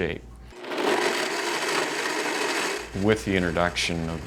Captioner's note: blender crunches